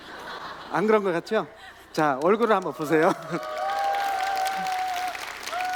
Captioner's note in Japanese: 拍手と歓声